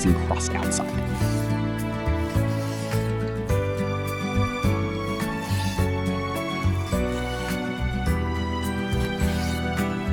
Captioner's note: sizzling